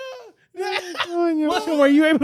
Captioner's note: laughing